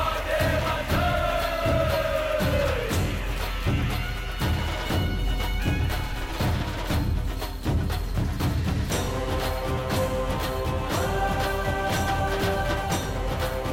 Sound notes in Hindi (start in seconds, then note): 1.0 तालियाँ